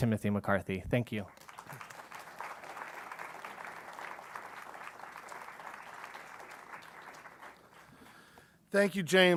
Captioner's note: applause